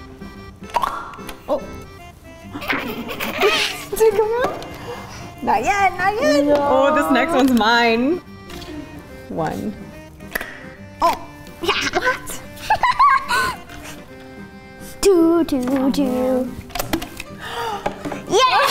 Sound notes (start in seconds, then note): 0.6 toy pops; 2.4 laughs; 11.0 toy pops; 11.6 laughs; 17.0 toy pops